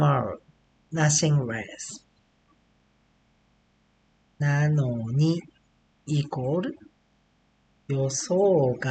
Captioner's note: speaking Japanese